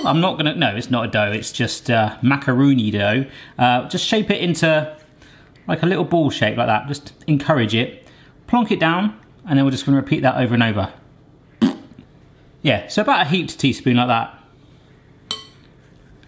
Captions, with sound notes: I'm not gonna, no it's not dough. It's just macaroon-y dough. Just shape it into, like a little ball shape like that. Just encourage it. Plunk it down, and then we're just gonna repeat that over and over. (blowing raspberry) Yeah, so about a heaped teaspoon like that.